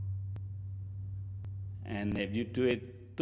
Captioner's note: gong sounds